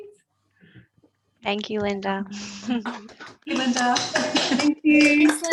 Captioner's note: all clapping